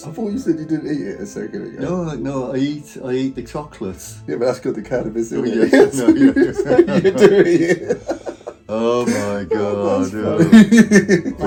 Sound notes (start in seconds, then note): 5.5 both laughing